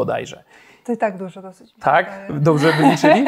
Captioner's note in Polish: śmiech